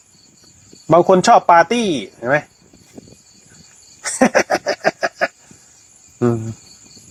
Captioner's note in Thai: เสียงหัวเราะ